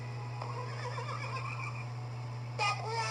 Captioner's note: horse Neighing